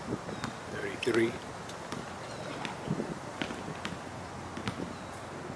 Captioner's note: basket ball tapping